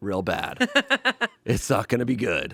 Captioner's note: laughs